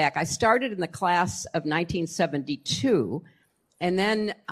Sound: none

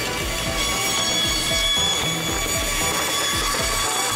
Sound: saw blade buzzing

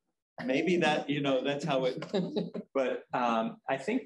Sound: chuckling

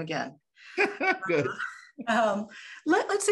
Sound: laughing

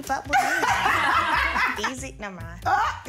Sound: all laugh

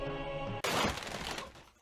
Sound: crash

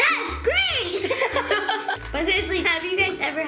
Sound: giggles

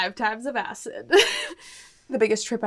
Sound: giggles

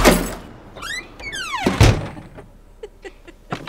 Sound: door creaks and thuds; laughing

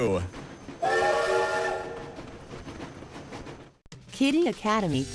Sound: train whistle blows

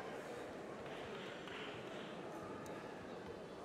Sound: applause

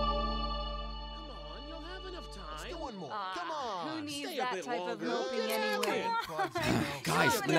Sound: student chatter

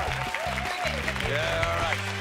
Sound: cheers and applause

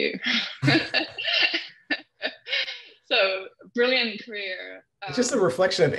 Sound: laughs

